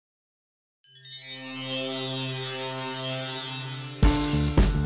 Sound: magical chimes

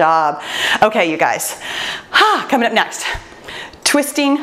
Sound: exhales

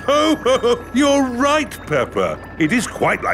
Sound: laughs

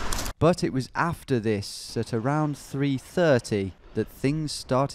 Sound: voiceover

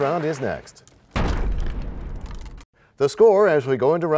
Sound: crashing sound

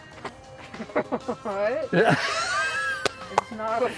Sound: music and Nature sounds; child laughing

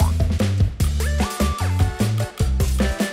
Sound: none

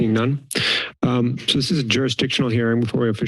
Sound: inhales

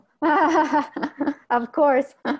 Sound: laughs

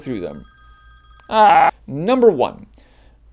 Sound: phone ringing

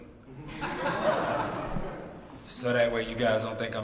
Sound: laugh

